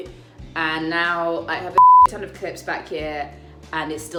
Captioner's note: beep